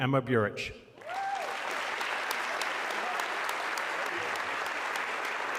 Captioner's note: audience clapping